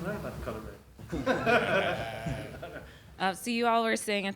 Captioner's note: panel laughs